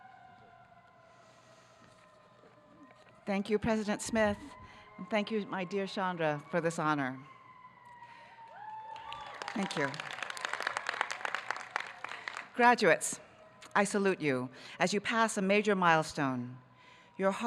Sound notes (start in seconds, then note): 8.5 audience cheering